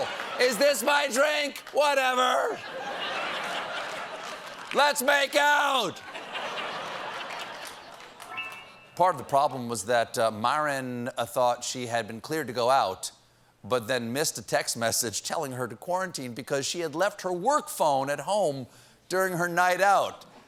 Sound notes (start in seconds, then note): 2.5 laughter; 6.0 laughter; 8.2 piano riff